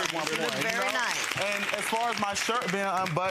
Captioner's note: audience applauds